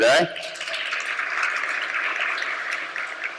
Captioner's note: clapping